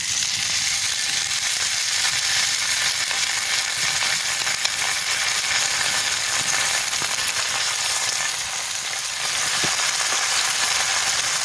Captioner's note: bacon sizzle